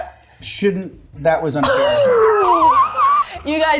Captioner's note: laughing